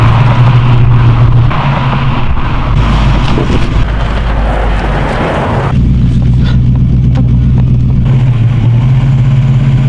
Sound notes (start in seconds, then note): 0.1 skreeching brakes; 3.1 thump